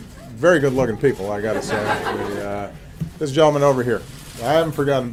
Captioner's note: laughter